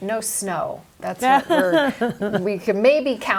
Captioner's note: laughs